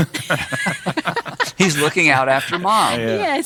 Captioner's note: laughing